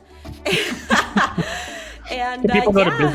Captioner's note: laughing